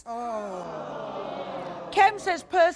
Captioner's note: audience groaning